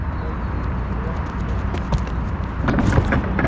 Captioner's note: footsteps approaching; pole rattling & impact noise